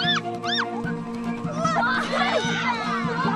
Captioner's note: shouts